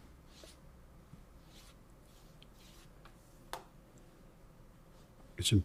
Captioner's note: silence